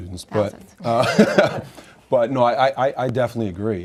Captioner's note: laughs